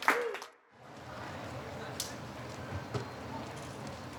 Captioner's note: crowd talking